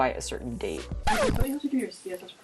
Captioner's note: record scratch